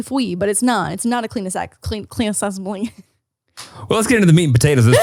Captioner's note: laughs